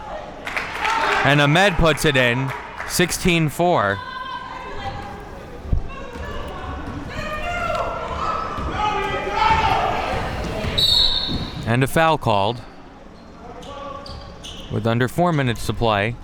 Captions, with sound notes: (spectators applauding) And Ahmed puts it in, 16-4. (spectators shouting encouragements) (whistle being blown) And a foul called with under four minutes to play.